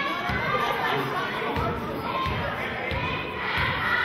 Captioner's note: chanting